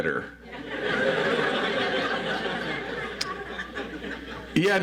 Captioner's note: audience laughs